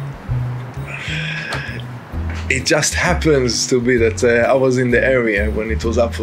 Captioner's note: sighs